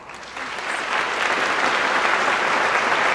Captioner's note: applause